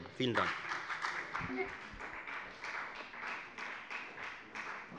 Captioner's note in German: Beifall bei der FDP